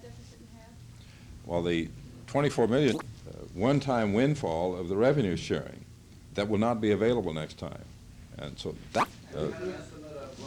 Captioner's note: camera noise